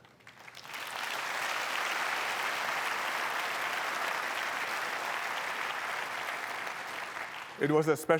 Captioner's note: applause